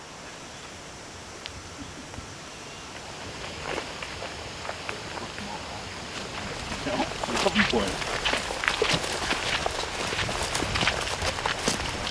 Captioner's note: wind